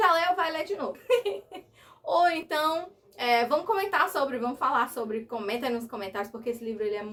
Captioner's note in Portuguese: risadas